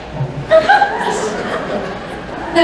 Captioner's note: laughter